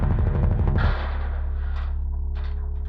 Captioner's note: loud thrumming; loud clang